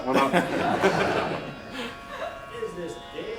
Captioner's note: laughter